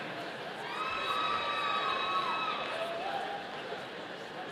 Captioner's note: audience cheering